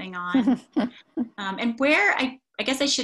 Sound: laughs

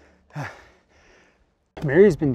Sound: panting

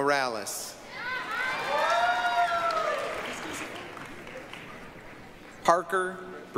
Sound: applause, cheering

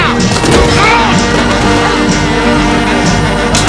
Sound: grunting, shouting

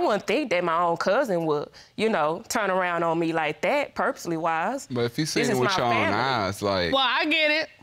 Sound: none

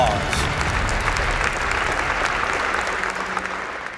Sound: applause

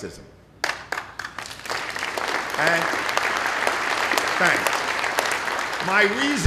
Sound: applause

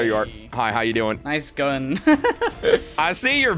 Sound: nervous laughter

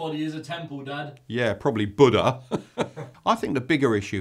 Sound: chuckles

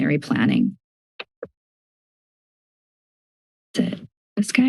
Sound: silence

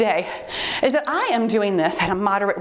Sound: timer beeps

